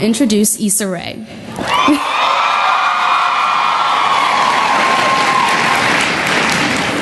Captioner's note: cheering and Applause